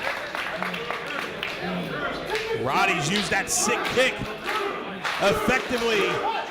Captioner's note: applause